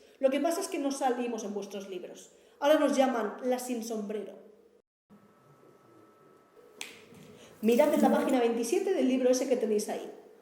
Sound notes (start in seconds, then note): 6.8 snaps his fingers